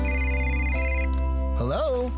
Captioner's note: phone Rings